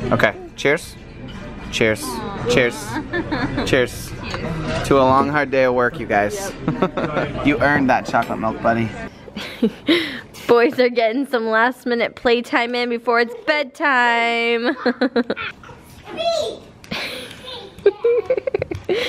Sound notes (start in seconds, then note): 6.6 laughs; 9.9 laughs; 14.6 laughs; 14.9 boys chattering, making shooting sounds